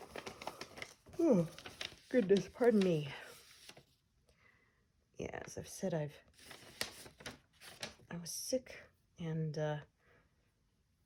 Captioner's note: yawns